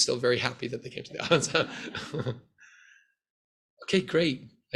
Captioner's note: laughs